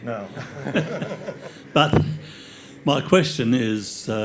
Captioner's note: all laugh